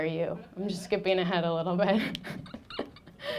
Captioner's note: laughing